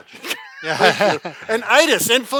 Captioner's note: laughs